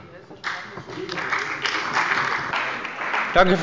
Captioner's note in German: Beifall bei dem BÜNDNIS 90/DIE GRÜNEN und der CDU